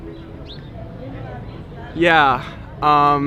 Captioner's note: gentle piano music; bird chirping